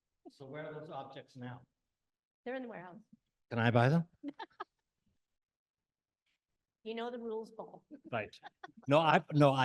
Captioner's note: laughs